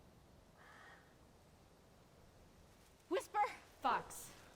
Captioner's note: crow caws